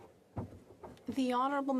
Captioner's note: speaking French